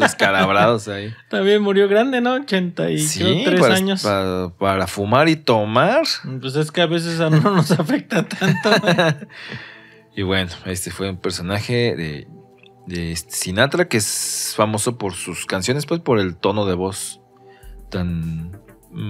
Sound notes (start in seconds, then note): 7.2 laughs